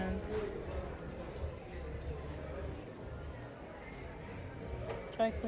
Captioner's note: people chattering